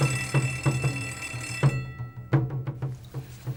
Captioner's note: bell rings